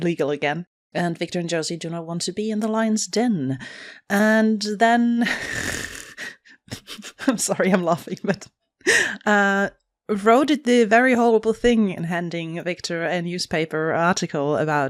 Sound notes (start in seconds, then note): 6.0 laughs